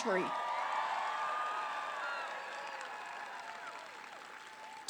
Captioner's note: applause